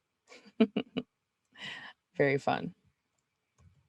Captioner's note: laughs